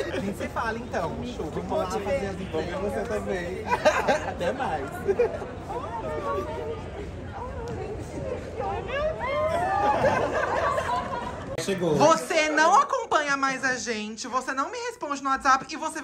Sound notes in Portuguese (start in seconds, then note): 8.4 gritos; 9.7 risos